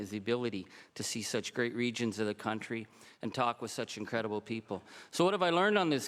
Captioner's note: speaking French